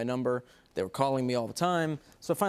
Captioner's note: none